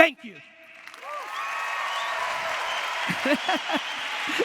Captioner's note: audience applause; Gary laughs